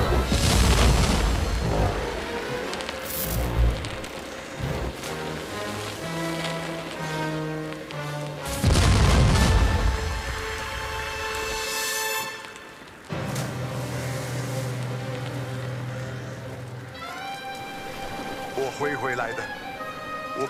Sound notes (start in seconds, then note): 0.2 canon blast; 3.2 fire crackling; 5.4 ocean splashes; 8.6 canon blast; 13.8 fire crackling; 16.8 music flutes